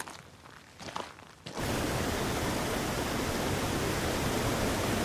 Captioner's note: water rushing